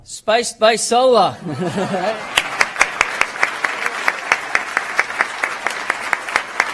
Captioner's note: applause